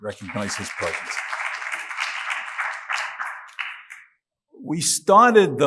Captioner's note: audience claps